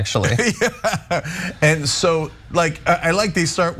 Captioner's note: laugh